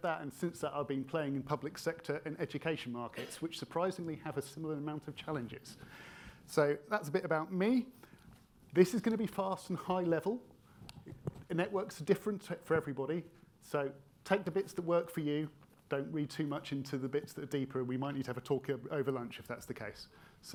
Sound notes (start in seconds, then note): 3.1 attendee coughing